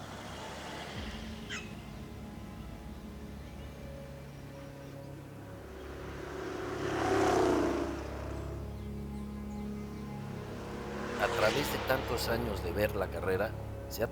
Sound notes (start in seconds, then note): 0.2 truck engine passing; 3.9 birds chirping; 8.2 dramatic music begins